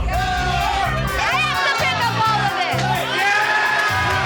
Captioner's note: crowd cheering